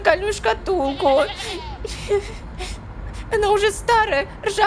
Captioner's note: cries